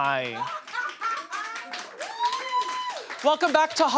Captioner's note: audience laughs